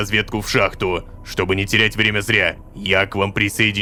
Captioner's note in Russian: шепотом